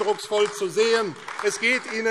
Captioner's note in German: Beifall AfD